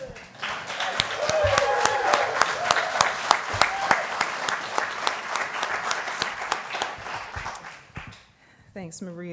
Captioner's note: applause